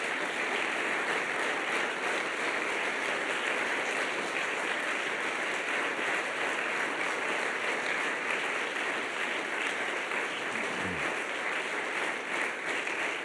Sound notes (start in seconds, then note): 0.0 applause